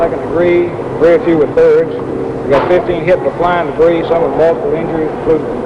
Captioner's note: man speaking into radio